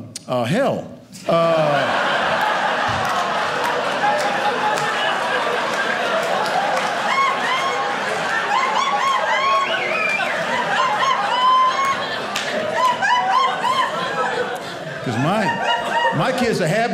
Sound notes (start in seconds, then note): 1.2 audience laughing